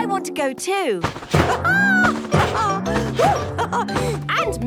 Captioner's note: laughs